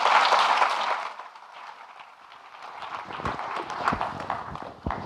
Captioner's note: audience clapping